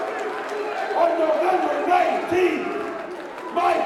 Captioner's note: crowd cheering